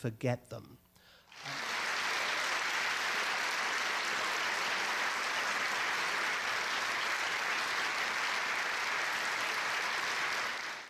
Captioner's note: audience applause